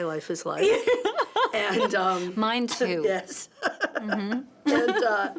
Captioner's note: laughs